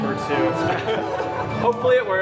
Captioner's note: laughter